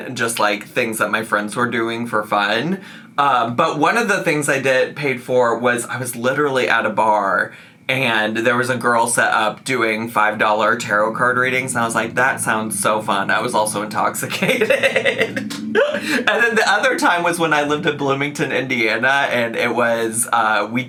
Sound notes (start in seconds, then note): 13.8 laughs